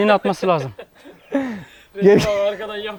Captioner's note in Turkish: gülüşmeler